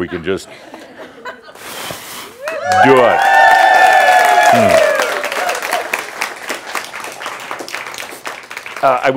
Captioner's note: cheers and applause